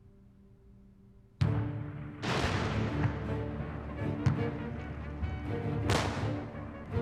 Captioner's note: artillery fire, bugle call